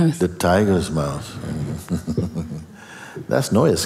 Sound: laughter

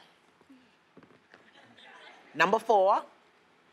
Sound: audience chatter

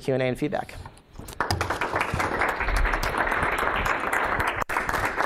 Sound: applause

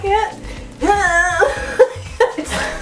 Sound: strange horse-like noise made

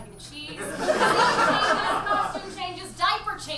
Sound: audience laughs

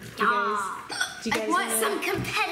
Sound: hiccups

